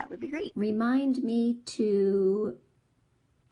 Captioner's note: voiceover